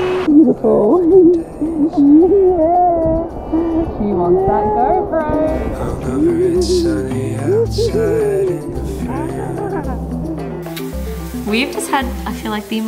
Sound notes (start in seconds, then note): 6.4 laughs; 9.1 upbeat electronic music